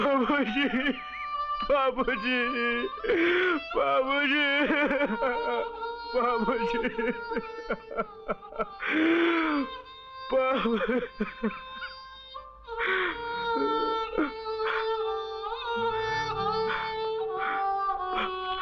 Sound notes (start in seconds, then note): 0.0 crying; 4.7 sobbing; 7.9 sobbing